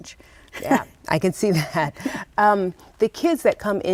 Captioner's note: laughs